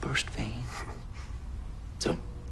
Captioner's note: chuckles